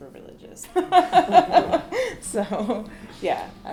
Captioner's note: laughter